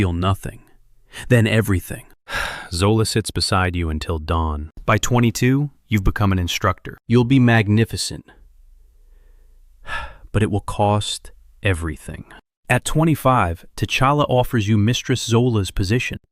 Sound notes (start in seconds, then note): 2.1 sighs; 9.8 sighs